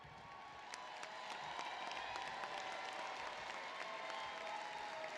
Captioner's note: applause